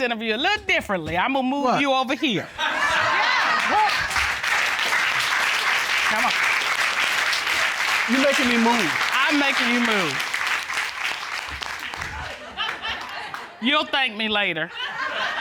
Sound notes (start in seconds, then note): 4.5 applause; 11.9 laughs